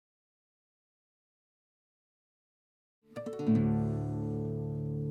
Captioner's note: silence